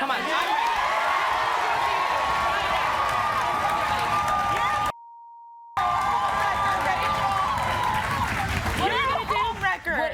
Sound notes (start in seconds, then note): 0.0 audience cheers; 5.0 beep